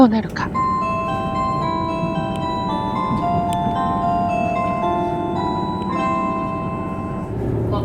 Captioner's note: The JR Shikoku chime is ringing